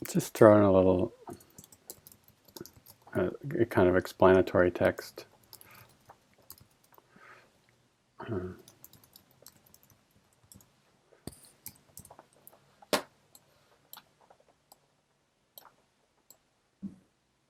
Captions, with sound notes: Let's just try a little, it, kind of explanatory text. (mouse clicking)